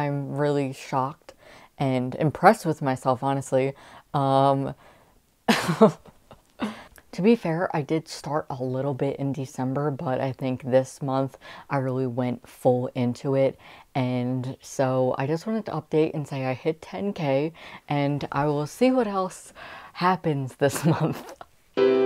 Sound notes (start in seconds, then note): 5.5 laughter